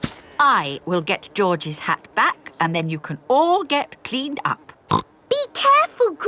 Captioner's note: snorts